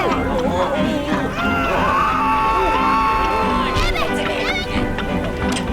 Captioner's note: yelling and screaming